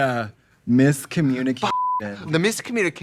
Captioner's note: beep